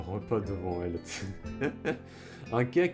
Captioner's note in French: Rires